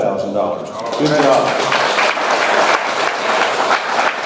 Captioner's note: audience applauds